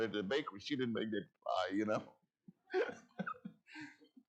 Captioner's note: laughs